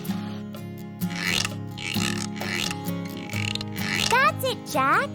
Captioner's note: rattling washboard